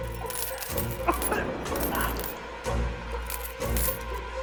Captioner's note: coins clinking; man coughing